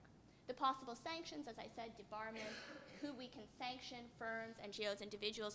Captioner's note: cough